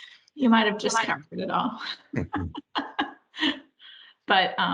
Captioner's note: laughs